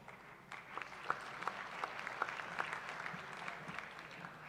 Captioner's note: applause